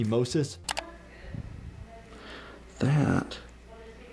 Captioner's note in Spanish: clic